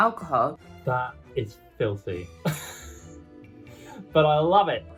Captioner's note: laughs